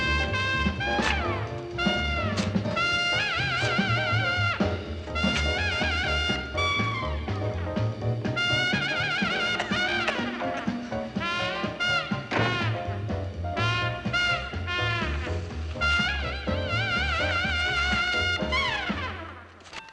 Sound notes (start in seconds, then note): 9.2 coughing; 11.8 door Slams